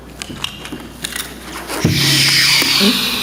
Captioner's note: object clinking; actor imitates fighter plane